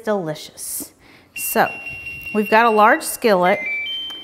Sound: skillet beeps

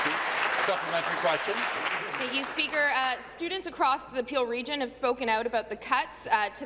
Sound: applause

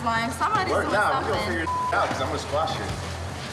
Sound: beep

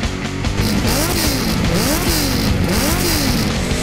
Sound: engine revving

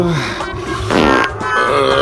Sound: fart

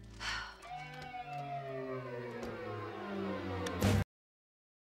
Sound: sighs

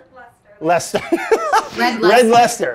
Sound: laughs

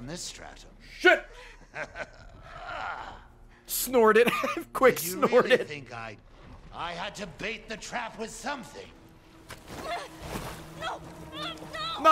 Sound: laughs

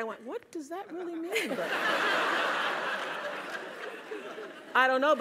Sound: laugh

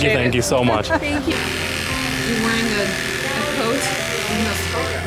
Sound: buzz

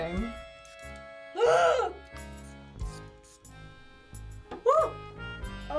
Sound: gasps

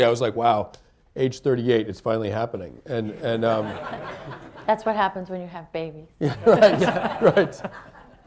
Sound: laughter

